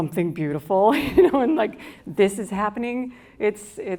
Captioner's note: laughs